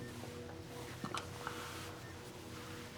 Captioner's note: the sound of the blanket being moved